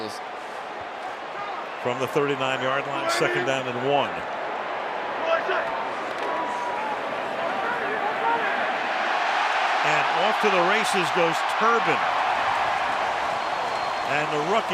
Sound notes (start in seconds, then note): 9.4 cheering